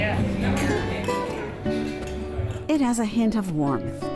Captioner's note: wine glasses clink